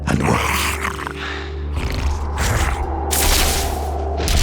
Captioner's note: demonic snarling; energy crackling